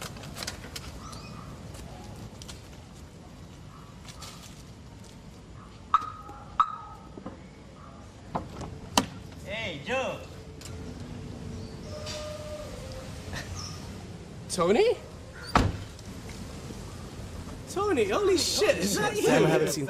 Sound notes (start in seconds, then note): 6.5 car alarm beeping